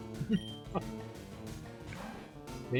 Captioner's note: short laughter